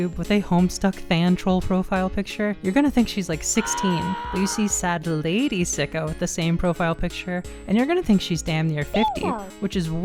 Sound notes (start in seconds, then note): 3.6 anguished scream